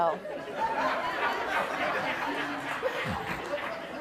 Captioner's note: laughing